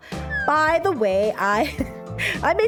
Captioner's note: chuckle